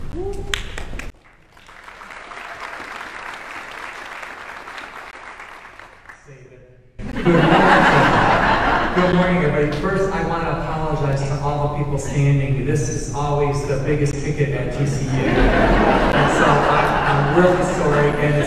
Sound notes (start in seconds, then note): 0.5 audience applauding; 7.0 audience laughing